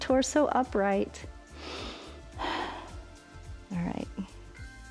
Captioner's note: inhales and exhales